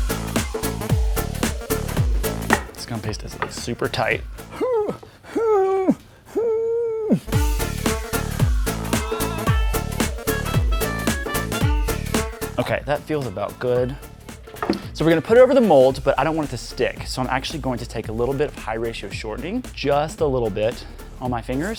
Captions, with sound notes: This gum paste is super tight (effort noises) Okay that feels about good So we're gonna put it over the mold, but I don't want it to stick So I'm actually going to take a little bit of high ratio shortening, just a little bit, on my fingers